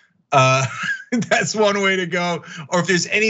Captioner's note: laugh